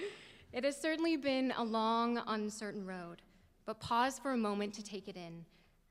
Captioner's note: laughter